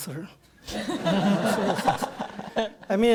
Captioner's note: audience laughter